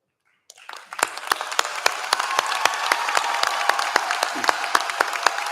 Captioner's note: applause